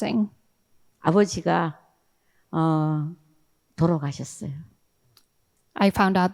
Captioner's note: speaking in foreign language